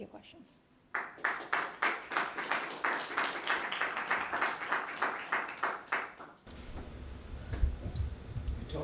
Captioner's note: applause